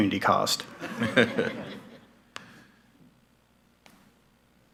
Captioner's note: laughing